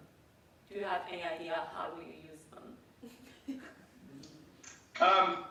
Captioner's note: laughs